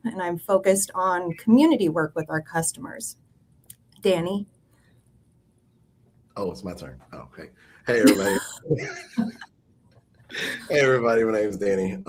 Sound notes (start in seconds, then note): 7.9 everyone laughing